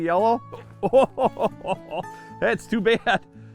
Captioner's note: laughter